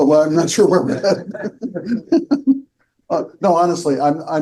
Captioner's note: laughs